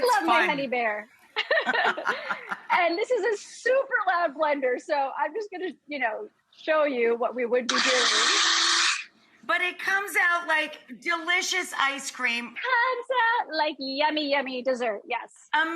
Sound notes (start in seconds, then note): 1.4 both laughing; 7.7 blender screeching